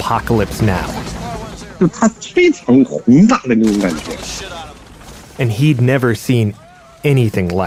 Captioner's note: speaking Mandarin Chinese